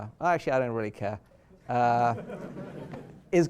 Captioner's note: laughter